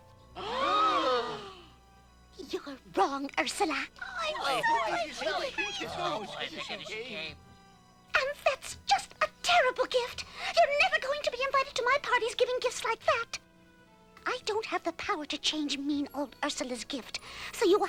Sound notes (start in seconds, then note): 0.4 gasping; 4.8 overlapping chatter